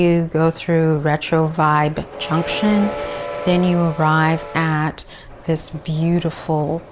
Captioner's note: train and whistle sounds